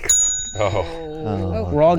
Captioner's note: bell ringing